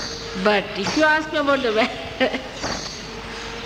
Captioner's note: laughs